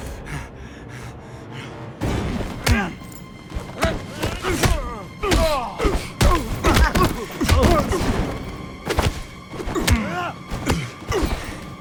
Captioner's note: panting